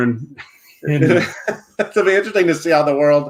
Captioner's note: laughs